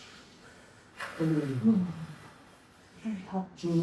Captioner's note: breathing; moaning; moaning